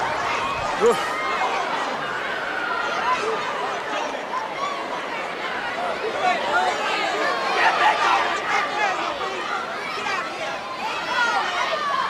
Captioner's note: crowd chatter